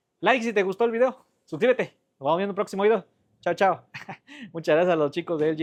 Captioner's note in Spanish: risas